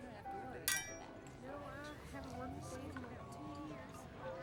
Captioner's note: glasses clinking